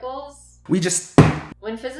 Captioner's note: smack